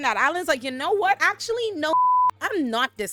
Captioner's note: beep